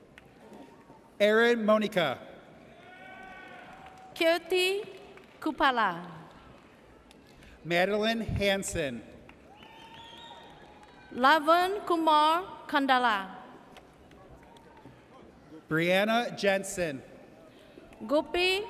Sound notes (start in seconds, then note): 2.7 audience cheers; 9.4 audience cheers